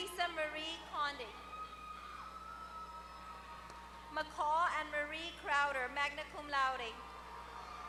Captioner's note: applause